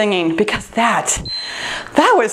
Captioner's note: timer beeps